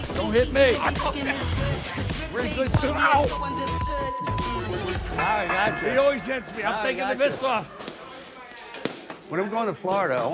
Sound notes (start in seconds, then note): 0.2 laughing; 2.8 beep